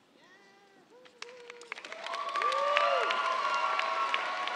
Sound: cheers, applause

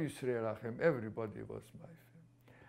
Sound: non-english

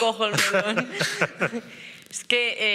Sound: he laughs

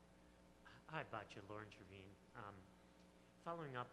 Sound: voiceover

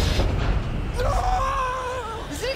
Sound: screams

